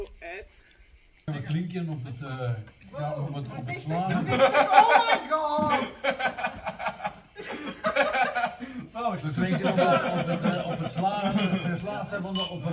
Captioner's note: laughter